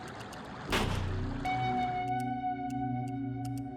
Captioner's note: gun fires